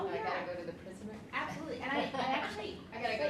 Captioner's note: laughs